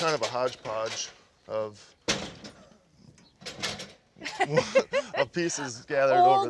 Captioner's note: laughs